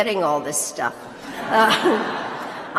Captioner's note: laughter